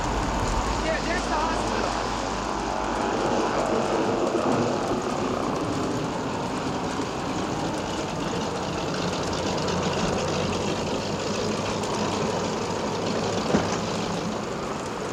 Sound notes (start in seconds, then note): 2.5 engine roaring; 2.5 wind howling